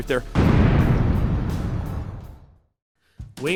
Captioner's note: explosion